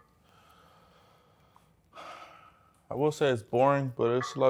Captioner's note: sighs